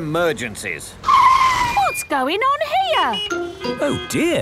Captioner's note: brakes screeching; honking